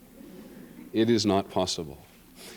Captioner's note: laughter